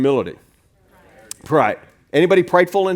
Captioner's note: crowd